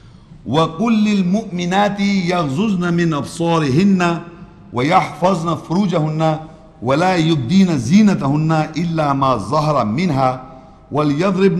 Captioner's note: Arabic